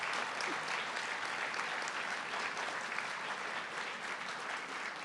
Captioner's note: audience clapping